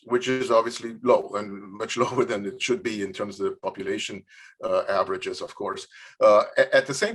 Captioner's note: laughs